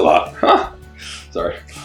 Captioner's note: laughs